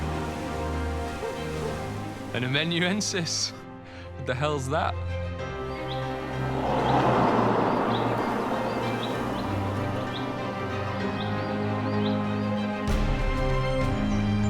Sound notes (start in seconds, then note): 5.1 birds chirping; 5.9 car whooshing